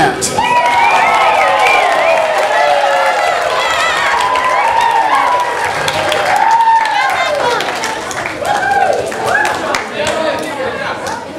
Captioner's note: audience applause